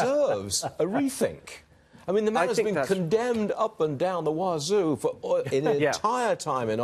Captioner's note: laughter